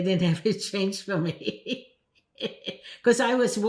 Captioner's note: laughing